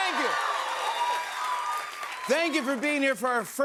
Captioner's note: cheers and applause